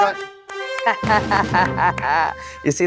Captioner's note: laughter